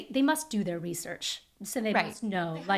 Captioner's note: laughing